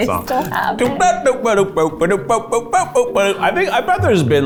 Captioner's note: hums